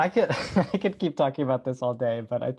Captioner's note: deep laughs